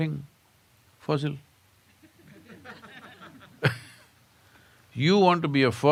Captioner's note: laughter